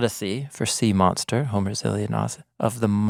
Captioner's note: speaking in foreign language